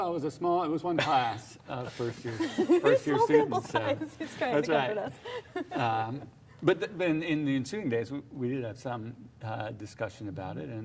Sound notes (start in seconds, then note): 5.6 laughs